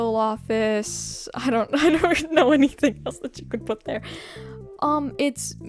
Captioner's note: laughing